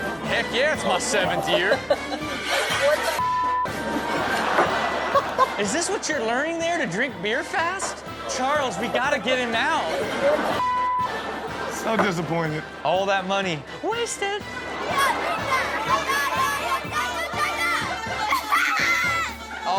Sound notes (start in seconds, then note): 0.0 upbeat music; 3.7 audience laughs; 15.7 screaming excitedly